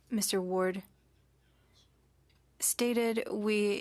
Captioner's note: speaking French